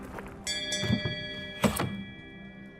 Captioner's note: bell rings